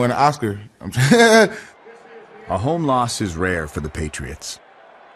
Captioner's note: laughs